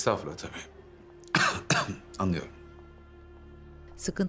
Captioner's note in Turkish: Öksürme sesi